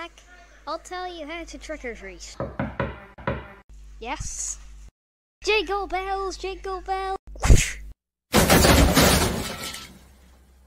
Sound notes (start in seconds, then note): 2.4 knocking on Door; 8.3 crash